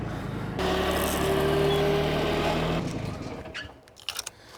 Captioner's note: vehicle engine roaring; vehicle starting up; chain clinking